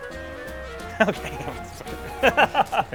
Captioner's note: chuckling